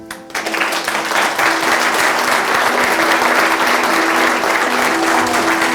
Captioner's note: audience claps; light music